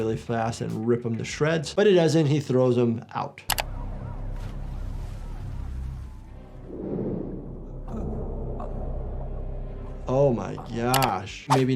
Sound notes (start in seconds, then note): 3.6 sirens wail; 4.3 water splashes